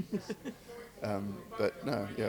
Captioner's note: laughs